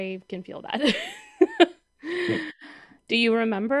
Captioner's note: rires